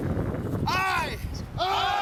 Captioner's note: voiceover